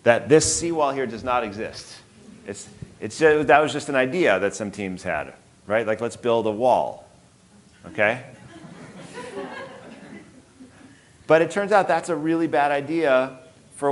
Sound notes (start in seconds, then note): 8.3 audience laughing